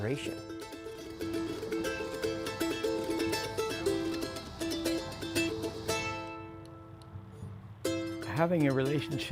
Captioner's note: hiss of cicadas